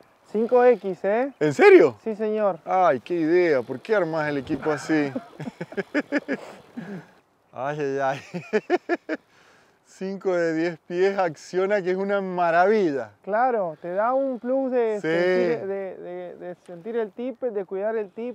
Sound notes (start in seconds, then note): 4.4 laughs